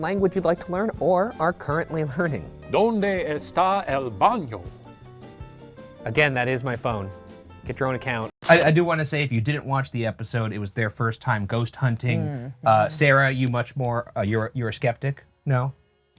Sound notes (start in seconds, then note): 2.6 speaking Spanish